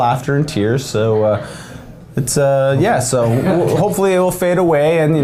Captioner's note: men laughing